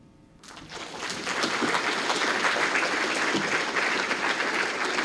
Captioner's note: applause